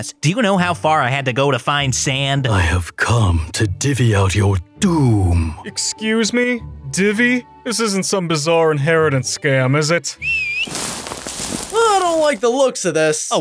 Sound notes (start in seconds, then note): 10.2 Wandering Travel whistles